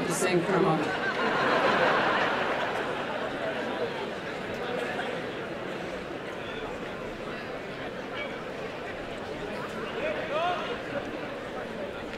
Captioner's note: background chatter